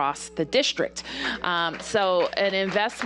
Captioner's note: applause